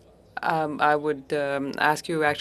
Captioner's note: speaking french